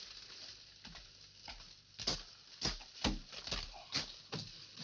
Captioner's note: footsteps